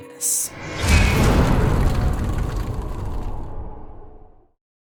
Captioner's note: impact